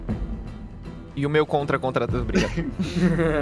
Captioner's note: laughter